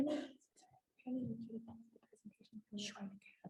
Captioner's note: whispering